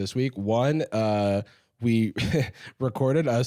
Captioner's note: laughs